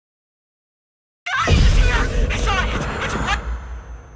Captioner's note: woman screaming